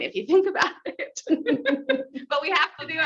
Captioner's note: all laughing